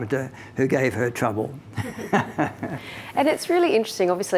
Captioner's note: both laughing